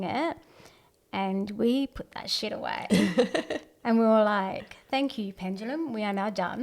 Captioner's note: laughs